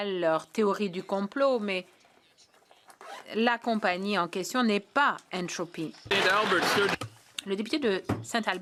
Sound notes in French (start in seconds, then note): 0.4 voix de l'interprète